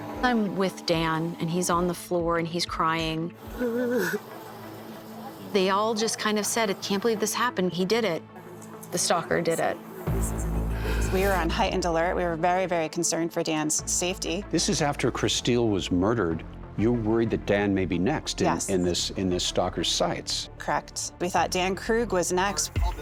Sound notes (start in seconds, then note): 3.6 cries